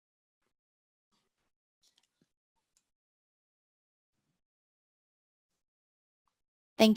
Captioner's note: pause